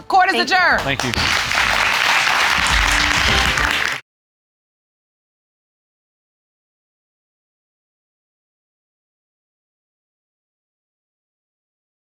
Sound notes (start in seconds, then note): 0.7 audience applauding